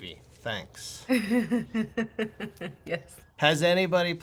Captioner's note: laughter